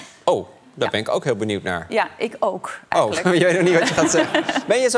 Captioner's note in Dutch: gelach